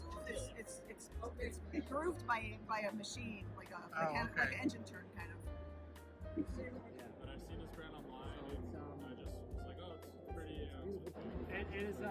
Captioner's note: crowd noise